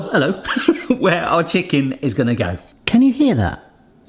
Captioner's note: laughs